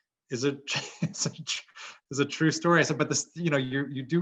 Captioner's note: laugh